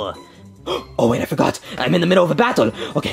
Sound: gasps

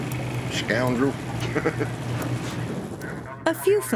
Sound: laughs

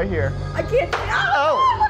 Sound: loud thud

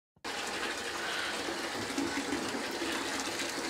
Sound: faucet running

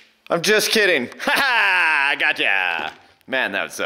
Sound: brash laugh

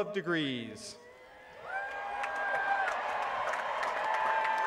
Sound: applause

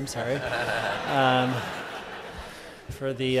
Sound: laughter

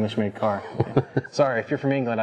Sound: chuckling

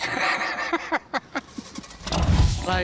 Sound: both laughing

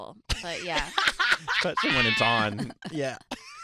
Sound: laughing

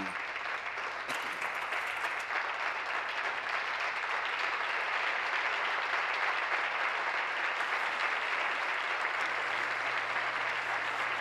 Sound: applause

